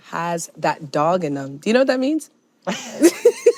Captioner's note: chuckles